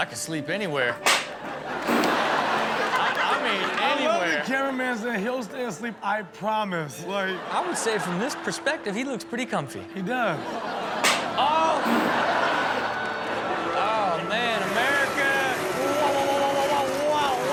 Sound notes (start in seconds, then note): 0.7 audience laughs; 1.8 balloon pops; 7.1 audience laughs; 11.8 balloon pops; 13.0 audience laughs